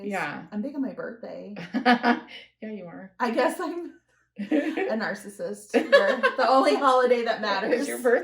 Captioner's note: laughter